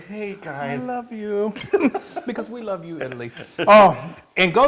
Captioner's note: laugh